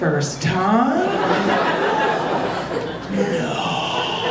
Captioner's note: audience laughing